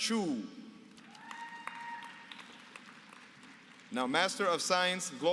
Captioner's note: applause